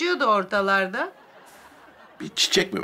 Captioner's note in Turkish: Gülme efekti